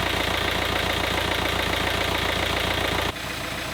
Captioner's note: engine roaring